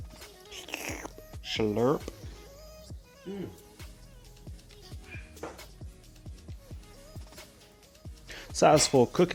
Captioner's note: sshhluurrrppp